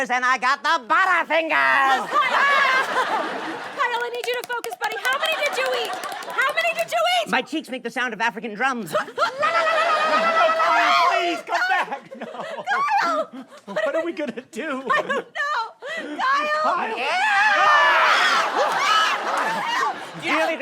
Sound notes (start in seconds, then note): 16.8 screams